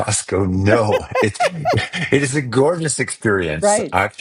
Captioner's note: laughing